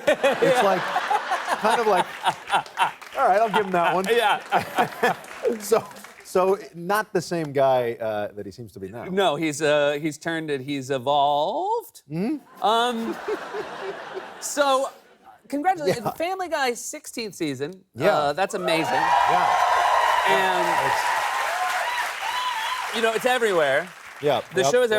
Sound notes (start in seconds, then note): 12.6 laughter; 18.6 cheers and applause